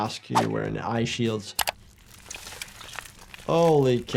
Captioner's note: mouse clicks; skin squelching